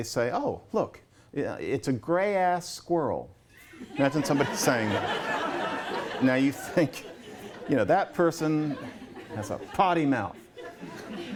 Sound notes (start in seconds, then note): 3.6 laughter